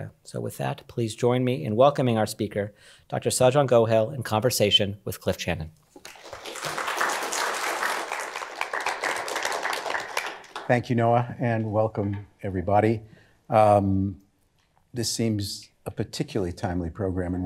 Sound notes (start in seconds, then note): 6.0 applause